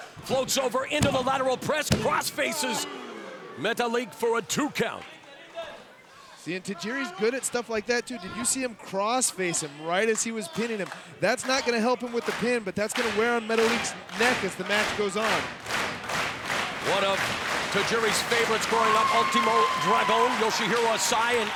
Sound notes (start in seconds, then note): 15.9 audience clapping